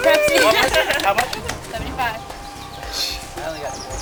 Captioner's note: cheering